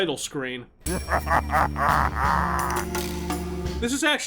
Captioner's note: evil laugh